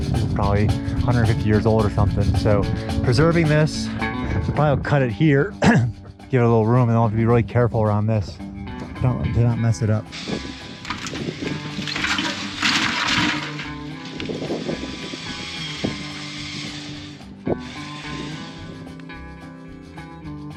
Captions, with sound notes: It is probably 150 years old or something. Preserving this, we probably will cut it here, give it a little room, and I'll have to be really careful around this. Do not mess it up. (building crumbling) (saws cutting) (slow music)